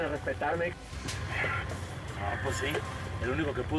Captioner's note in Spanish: bofetada